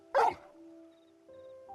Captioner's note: bark